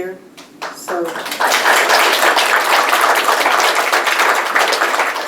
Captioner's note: applause